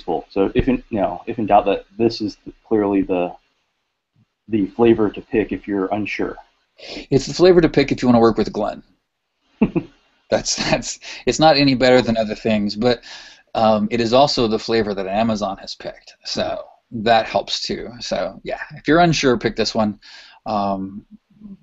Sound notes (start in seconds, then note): 9.6 chuckles